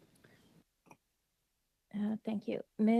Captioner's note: speaking French